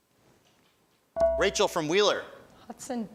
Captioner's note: buzzer chimes